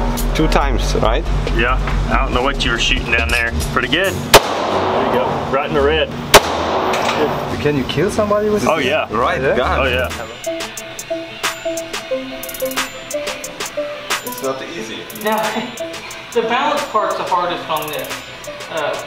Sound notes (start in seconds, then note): 4.3 gunshots banging; 15.6 chuckling